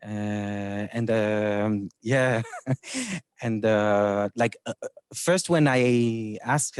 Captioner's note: chuckles